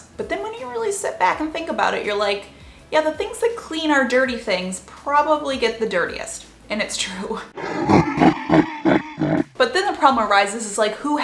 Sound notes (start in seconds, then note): 7.5 guttural laughing